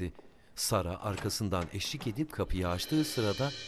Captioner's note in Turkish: Kapı açılma sesi